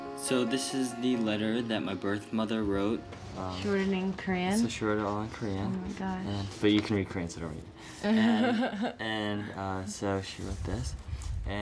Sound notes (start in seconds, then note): 8.0 laughs